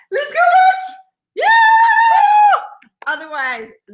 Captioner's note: cheering